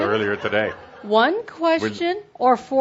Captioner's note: laughter